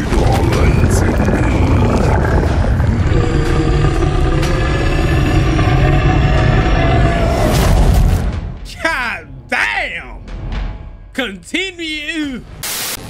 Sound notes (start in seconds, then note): 3.2 monster growling